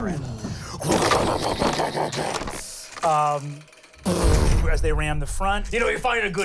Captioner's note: imitates ships shattering